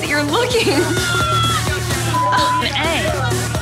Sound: beep

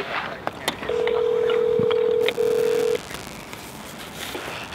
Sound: phone ringing

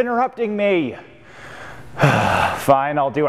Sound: sigh

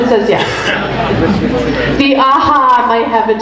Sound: group laughs

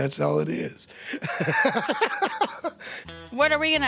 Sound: laughs

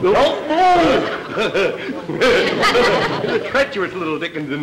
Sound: Clem giggling

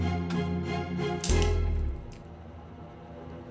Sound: handcuffs click

